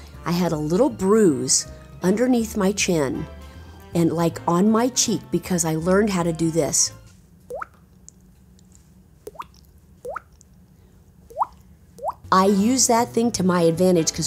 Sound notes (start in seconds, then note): 7.1 Nancy imitates water plinking